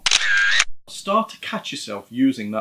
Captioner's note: camera shutter click